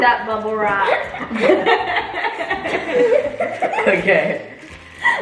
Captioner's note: family laughs